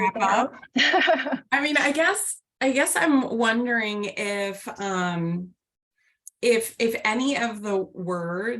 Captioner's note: laughter